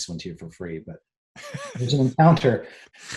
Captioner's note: laughs